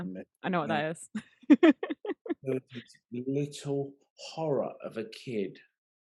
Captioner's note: laughing